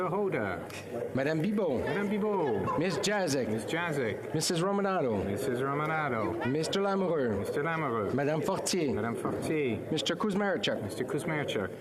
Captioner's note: calling of recorded vote